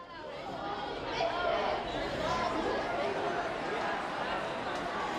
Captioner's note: kids chattering